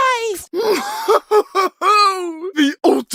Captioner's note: evil Laugh